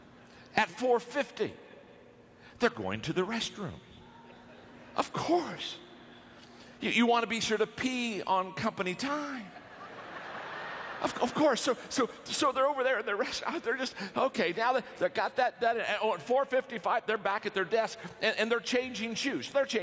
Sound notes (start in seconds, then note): 9.5 audience laughter